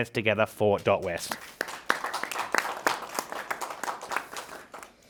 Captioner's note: participants clapping